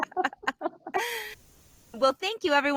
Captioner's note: laughs